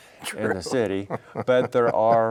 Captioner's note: laughing